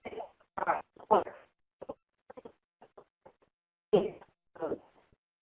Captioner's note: distorted audio